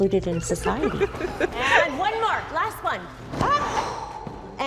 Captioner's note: teacher laughs